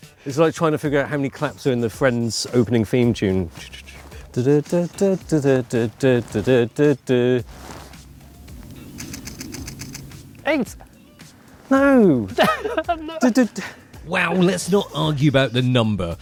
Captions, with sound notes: It's like trying to figure out how many claps are in the Friends opening theme tune. [HUMMING] Eight! No! [LAUGHTER] Wow, let's not argue about the number.